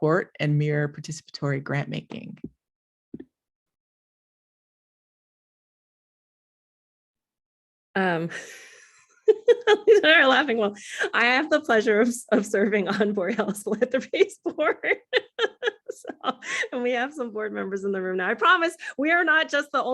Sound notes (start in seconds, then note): 9.2 laughs